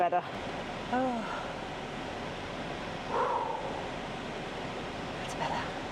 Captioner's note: blows